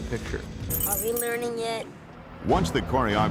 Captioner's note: keys jingling